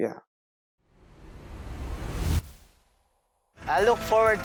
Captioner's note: screen whooshing